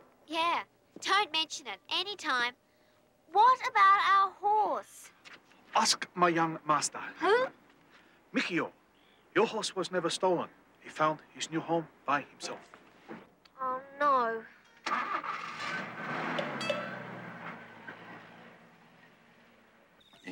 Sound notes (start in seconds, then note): 14.8 van engine roars